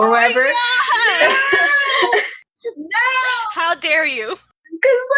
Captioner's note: laughing